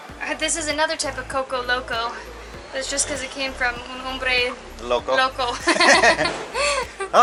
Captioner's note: laughter